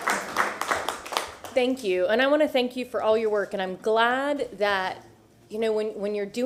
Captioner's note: applause